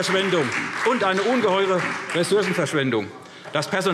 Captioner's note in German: Beifall SPD und Freie Demokraten